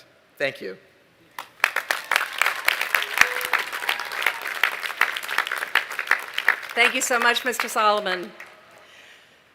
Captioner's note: applause